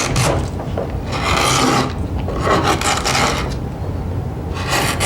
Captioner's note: tool scraping